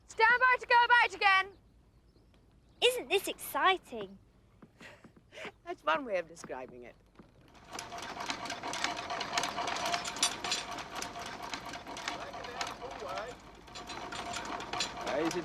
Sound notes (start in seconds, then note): 5.2 laughs